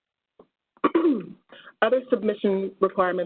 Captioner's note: clears throat